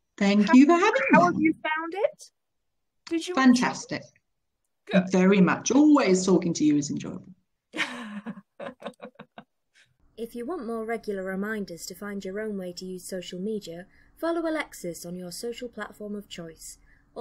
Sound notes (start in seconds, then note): 7.8 laughing